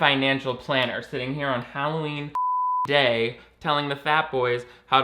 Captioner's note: beeping